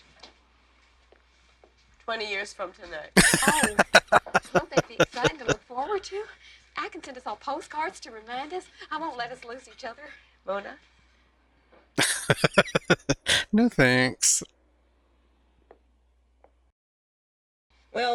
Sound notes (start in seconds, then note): 3.2 laughing; 12.0 laughing